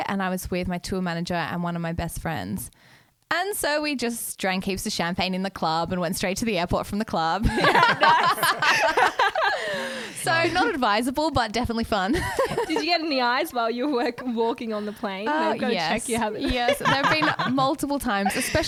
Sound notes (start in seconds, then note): 7.4 laughing together